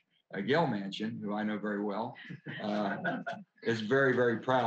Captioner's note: laughter